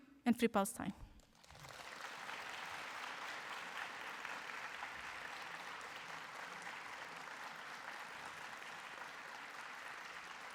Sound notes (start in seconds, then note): 1.8 applause